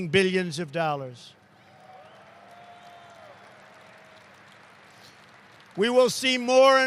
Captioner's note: applause